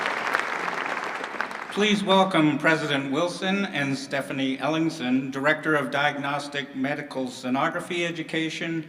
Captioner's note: applause